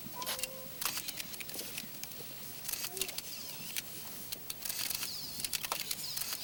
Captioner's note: camera shutters clicking